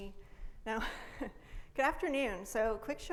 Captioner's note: laughs